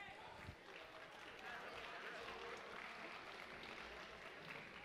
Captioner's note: audience applauding